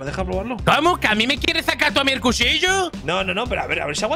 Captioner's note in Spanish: acento andaluz